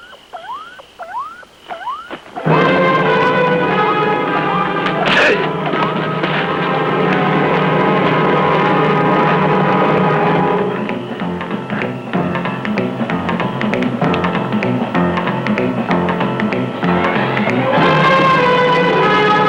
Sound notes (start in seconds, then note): 0.0 electronic beeping; 0.2 dramatic chord; 4.9 crying out; 4.9 whacking; 11.1 dramatic music